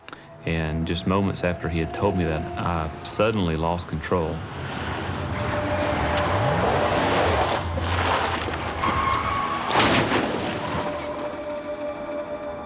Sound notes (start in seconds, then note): 5.4 tires squealing; 9.9 metal crunching